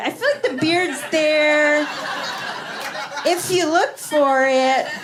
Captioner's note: laughter